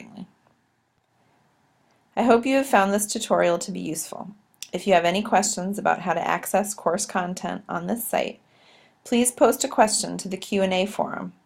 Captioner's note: click